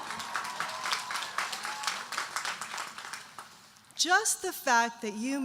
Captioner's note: audience cheering and applauding